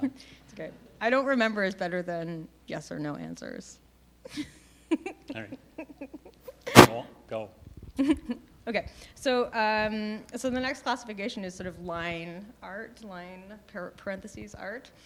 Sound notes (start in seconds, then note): 4.2 laughing